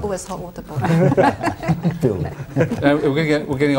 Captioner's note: laughter